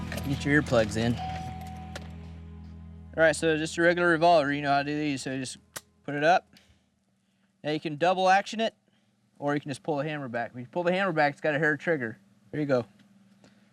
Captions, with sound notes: Get your earplugs in. (car door chiming) All right, so just a regular revolver. You know how to do these, so just (clicks gun) put it up. Now you can double action it or you can just pull the hammer back. When you pull the hammer back it's got a hair trigger. Here you go.